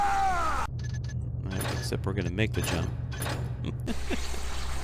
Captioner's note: laughs